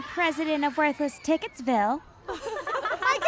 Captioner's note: laughs